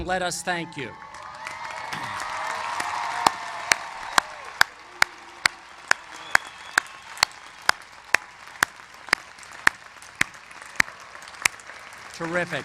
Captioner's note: cheers and applause